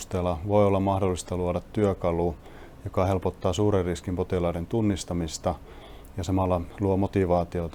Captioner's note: speaking in foreign language